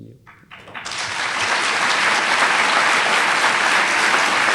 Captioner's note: audience applauds